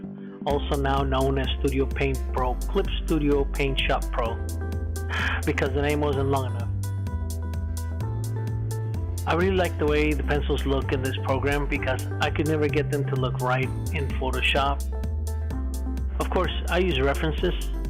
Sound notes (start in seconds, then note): 5.1 sigh